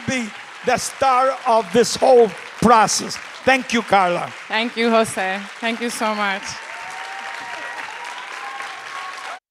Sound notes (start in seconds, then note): 6.3 crowd cheering